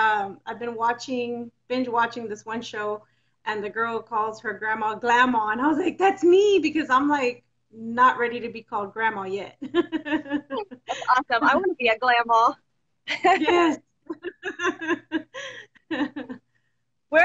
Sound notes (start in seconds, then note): 10.0 laughs; 14.0 both laughing